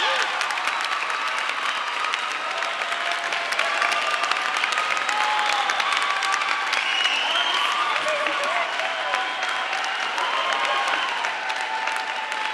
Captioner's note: applause